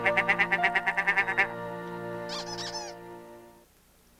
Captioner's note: squeak squeak